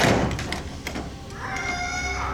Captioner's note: kitty squawks